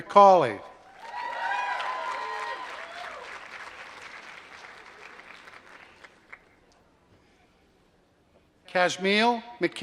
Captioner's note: applause